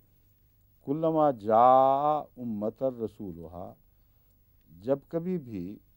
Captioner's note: Arabic